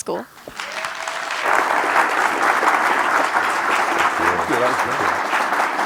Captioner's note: applause